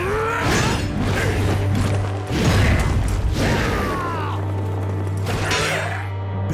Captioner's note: grunting